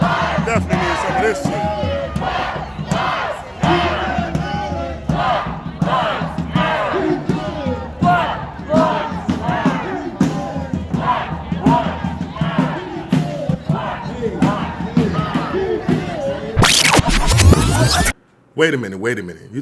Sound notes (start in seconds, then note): 10.0 drums banging; 16.6 video rewinding